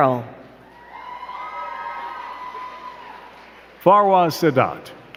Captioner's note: crowd cheering and clapping